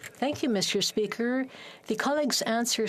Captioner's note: speaking French